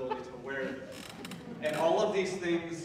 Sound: audience members laughing

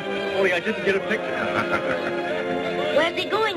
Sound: Hidaka laughs

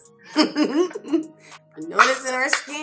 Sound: both laugh

